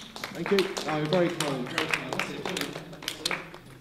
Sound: scattered applause

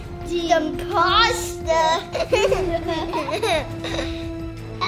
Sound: laughing

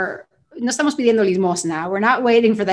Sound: speaking spanish

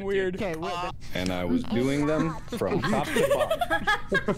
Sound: laughter

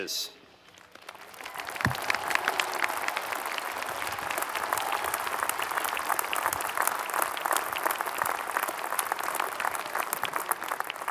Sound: applause

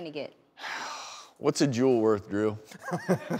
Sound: sighs; laughs

